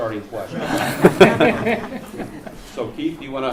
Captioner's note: laughter